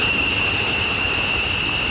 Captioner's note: plane noise